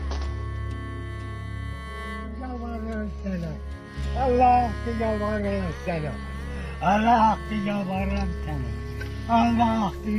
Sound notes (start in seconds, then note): 4.7 old man pleading